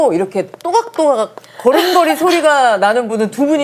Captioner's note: first time hearing guests' footsteps